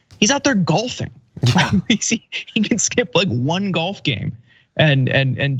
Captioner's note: laugh